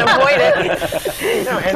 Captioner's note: laugh